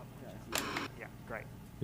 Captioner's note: static buzzing